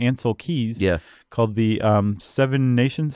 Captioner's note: voiceover